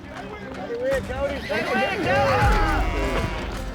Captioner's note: shouting encouragement; horse whinnies